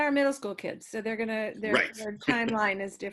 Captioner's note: chuckles